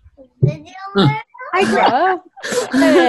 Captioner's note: children babbling; laughing